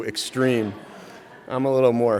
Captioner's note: audience laughing